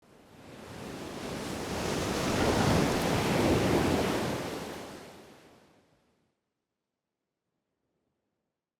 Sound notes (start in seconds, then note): 1.4 waves crashing